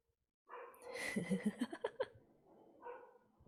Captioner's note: laughs